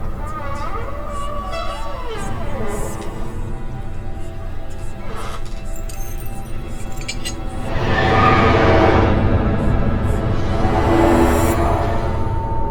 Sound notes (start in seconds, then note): 0.3 door creaking; 5.5 dramatic music; 5.5 eerie whispering